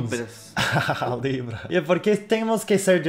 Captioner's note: laughs